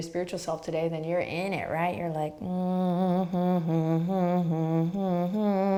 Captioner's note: humming